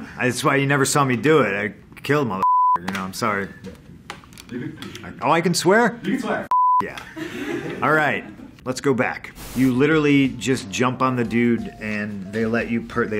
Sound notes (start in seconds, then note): 7.1 laughs